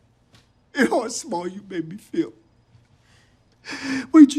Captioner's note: he cries; crying